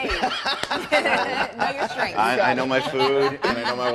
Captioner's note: laughter